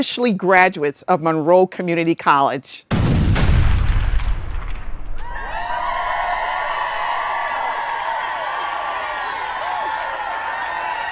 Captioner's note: sound of explosions and cheering